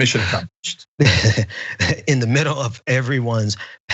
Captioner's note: laugh